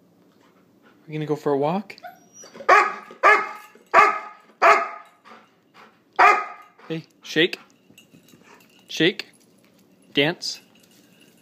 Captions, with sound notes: Are we gonna go for a walk? [Excited barks] Hey. Shake. Shake. Dance.